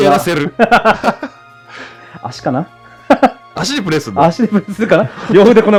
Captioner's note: laughs